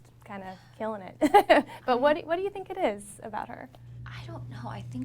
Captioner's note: laughs